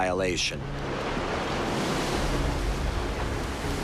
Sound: waves crashing

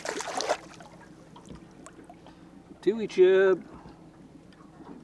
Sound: fish splashing

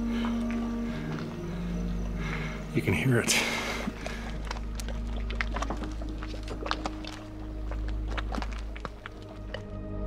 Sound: mud bubbling

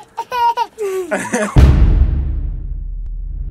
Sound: laughing

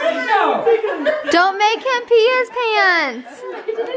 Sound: voiceover

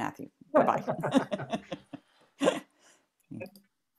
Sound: laughter

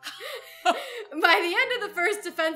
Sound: both laugh

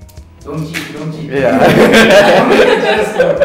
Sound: laughs

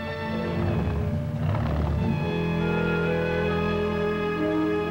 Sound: engine rumbles

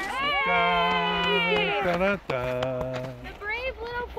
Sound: cheering

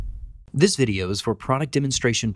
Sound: voiceover

